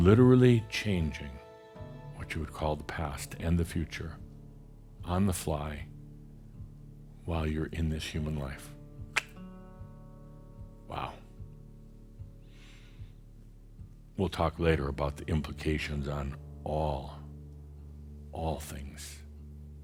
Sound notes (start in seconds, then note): none